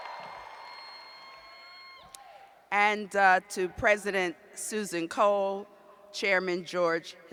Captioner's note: cheers